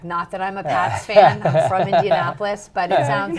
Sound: laughs

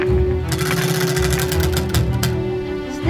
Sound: wheel clanks around metal axle

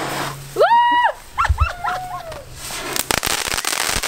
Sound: yelling and laughing

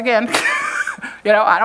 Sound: chuckles

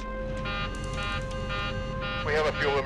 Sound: computer beeps

